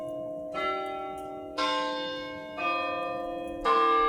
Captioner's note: bells tolling